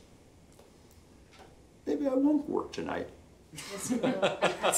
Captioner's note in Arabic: ضحك